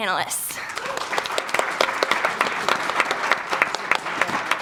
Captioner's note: audience applauding